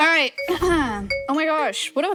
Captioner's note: bright music; clears throat